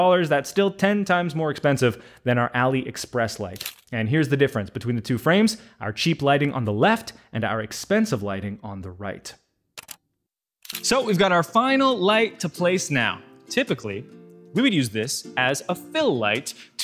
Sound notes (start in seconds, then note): 10.6 camera shutter clicking